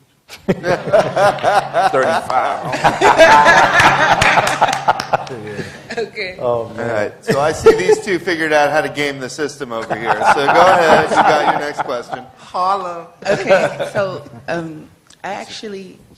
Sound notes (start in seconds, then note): 0.3 laughter; 6.4 applause; 6.4 laughter; 9.8 laughter